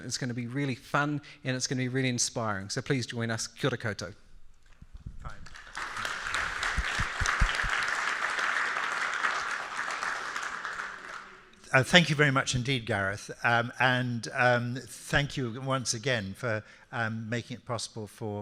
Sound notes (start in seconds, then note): 5.3 audience applauding